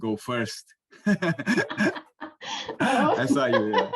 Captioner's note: laughter